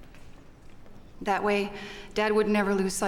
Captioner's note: none